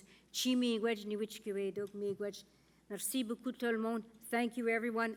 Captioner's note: speaking Indigenous and French